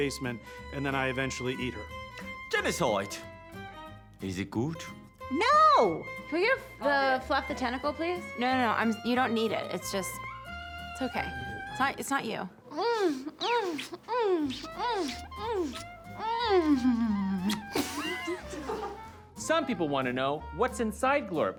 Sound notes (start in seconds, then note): 12.6 smooches, moans; 16.0 both laughs